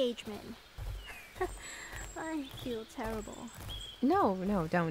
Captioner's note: weak laugh